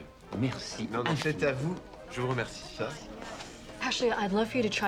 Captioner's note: both speaking French